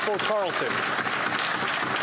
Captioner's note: some Applause